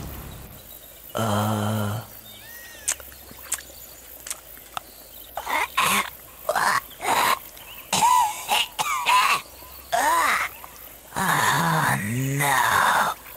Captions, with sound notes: Uhh...? Eh... *Coughing and gagging* Ugh! Oh no...